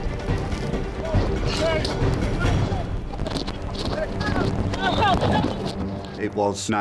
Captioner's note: intense music; wind whooshing; wind drowns out speaker